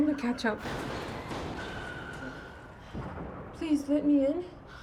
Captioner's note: explosions booming